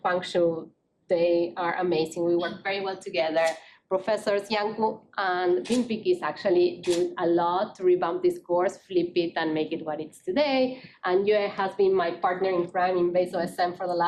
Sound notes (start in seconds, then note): none